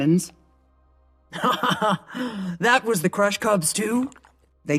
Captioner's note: laugh